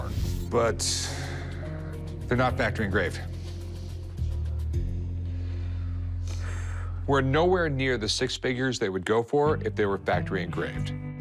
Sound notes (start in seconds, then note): 2.9 suspenseful music; 5.6 sighs